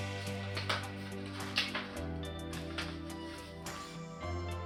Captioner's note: soft guitar music; envelope rustling